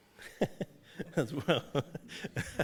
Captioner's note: laughs